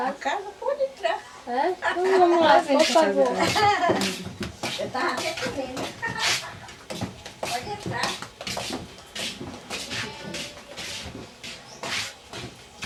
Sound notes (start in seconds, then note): 1.8 laughter; 4.4 footsteps sounds